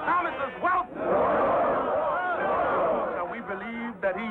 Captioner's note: crowd clamors and chants "NO"